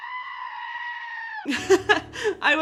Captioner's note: screaming; laughing